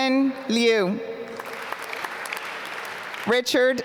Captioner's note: applause